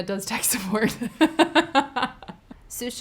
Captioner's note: laughing